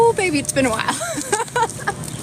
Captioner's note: laughs